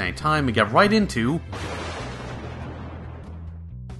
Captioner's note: crack of thunder